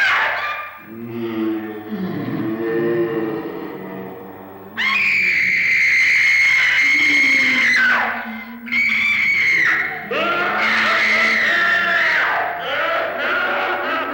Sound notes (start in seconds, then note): 0.2 ghostly moaning; 4.7 screaming; 8.7 maniacal laughter